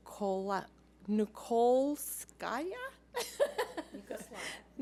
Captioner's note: laughing